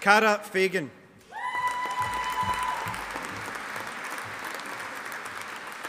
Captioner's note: audience applauding